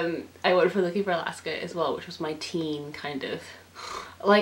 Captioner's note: sigh